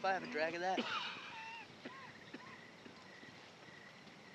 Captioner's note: coughing